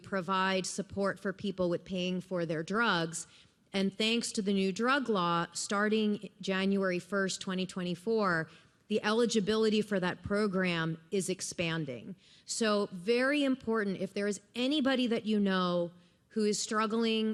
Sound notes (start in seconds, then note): none